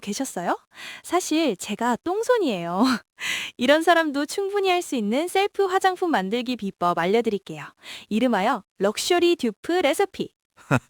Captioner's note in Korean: 웃음